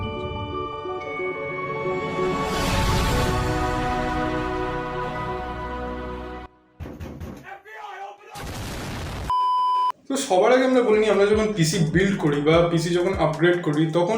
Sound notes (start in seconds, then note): 6.8 door knock; 9.3 beep